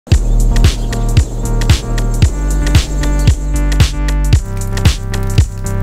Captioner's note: birds chirping; upbeat music